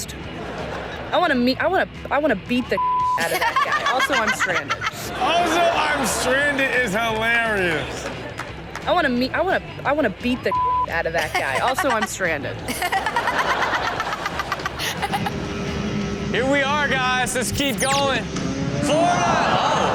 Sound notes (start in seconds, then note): 0.2 audience laughing; 2.8 beep; 3.2 Chanel laughs; 10.5 beep; 12.9 Chanel and audience laughing